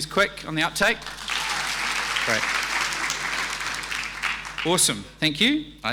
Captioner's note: audience applauding